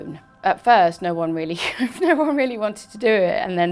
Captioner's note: laughs